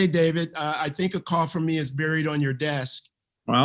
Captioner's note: laughs